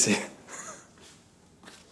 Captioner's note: laughter